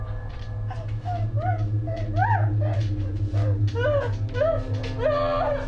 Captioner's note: dramatic music; Maggie screaming; dramatic music